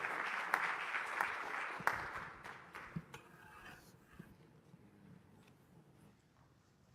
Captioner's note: applause